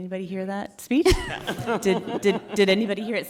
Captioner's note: directors laughing